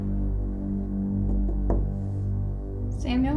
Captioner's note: knocking